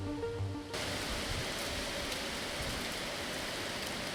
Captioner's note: wind gusting